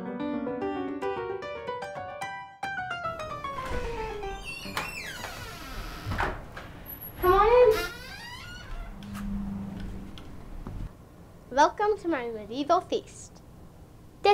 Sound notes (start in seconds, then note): 0.0 bright playful music continues; 3.1 door creaking